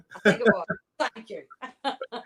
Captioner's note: laughs